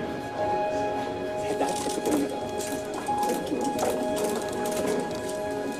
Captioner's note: camera shutters clicking